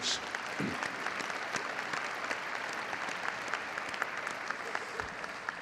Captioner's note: audience applauding